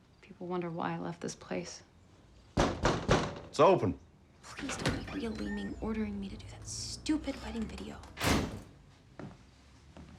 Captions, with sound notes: People wonder why I left this place. [Knocking] It's open. Please don't be a Leaming ordering me to do that stupid wedding video. [Bang]